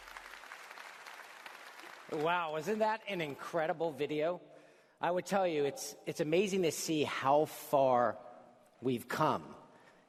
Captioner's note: applause